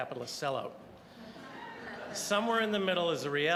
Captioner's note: audience laughing